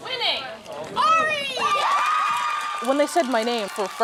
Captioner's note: cheers